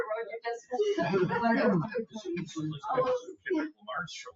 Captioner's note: people chatter